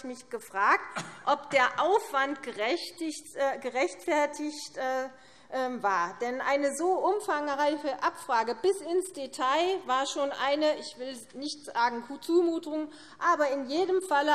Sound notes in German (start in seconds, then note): none